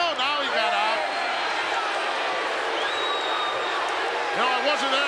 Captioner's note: crowd booing